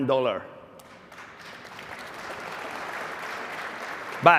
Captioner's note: applause